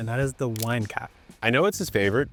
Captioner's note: button clicking